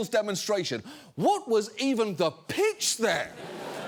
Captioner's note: studio audience laughs